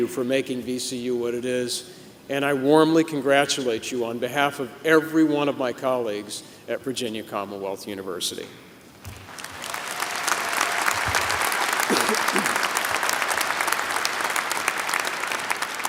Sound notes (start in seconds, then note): 9.2 applause